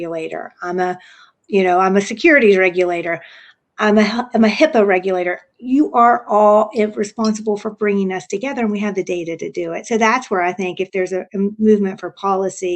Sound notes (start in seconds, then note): none